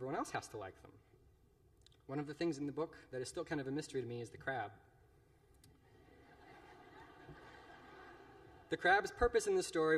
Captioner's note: laughter